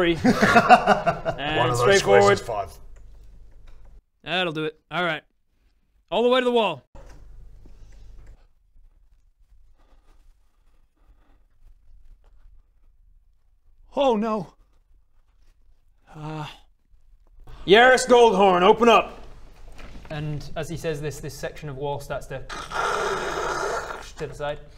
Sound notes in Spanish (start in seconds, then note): 0.1 risas; 9.2 silencio aterrorizado